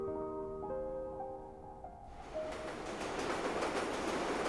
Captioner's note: train passing overhead